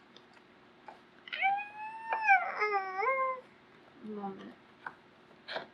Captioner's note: groans